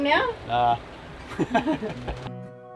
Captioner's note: laughs